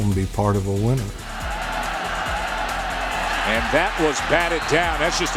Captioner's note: crowd cheering